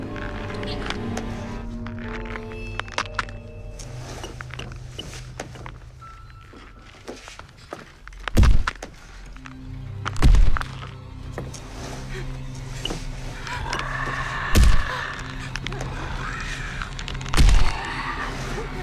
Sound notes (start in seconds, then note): 0.0 intense music; 0.3 bones cracking; 7.6 feet stomping; 13.5 mummy snarling; 13.7 feet stomping